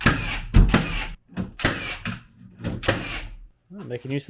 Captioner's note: machine drilling